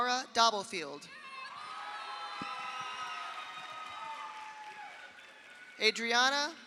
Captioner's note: audience cheers; audience applauds